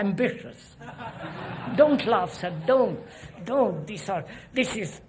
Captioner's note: laughter